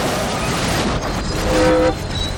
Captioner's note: train whistle blows